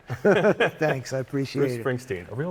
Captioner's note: laughter